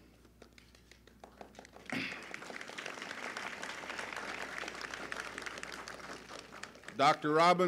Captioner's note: applause